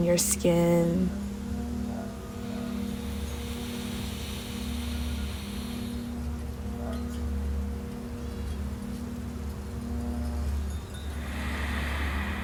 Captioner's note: breathes in deeply, holding it for 4 seconds, exhaling out slowly but intently